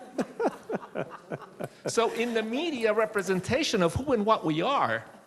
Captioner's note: laughing